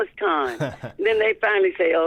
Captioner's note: laughter